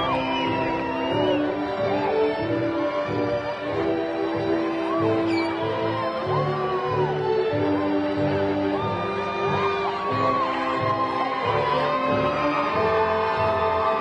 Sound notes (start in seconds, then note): 3.1 graduation music continues; 8.4 crowd cheering